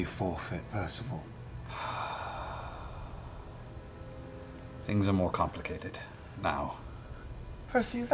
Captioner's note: sighs heavily